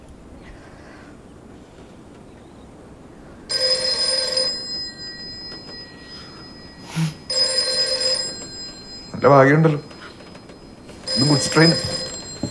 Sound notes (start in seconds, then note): 3.7 telephone rings